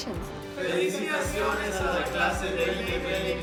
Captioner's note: non-english speech